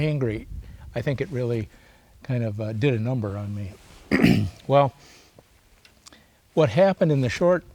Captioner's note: clears throat